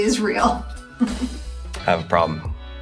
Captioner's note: chuckles